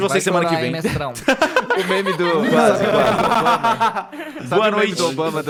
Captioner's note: laughing